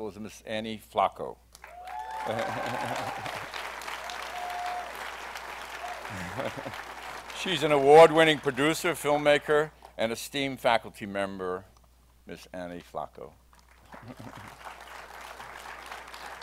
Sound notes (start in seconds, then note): 1.6 applause